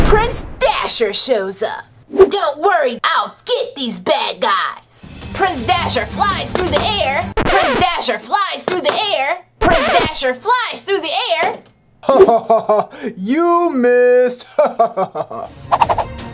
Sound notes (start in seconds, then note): 0.0 electricity buzzes; 7.3 record scratches; 15.0 laughs